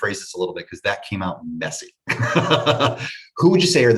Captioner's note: laughs